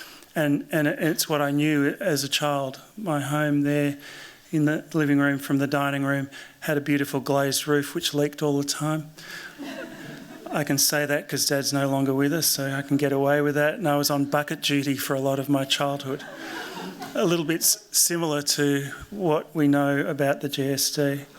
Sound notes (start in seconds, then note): 9.6 laughter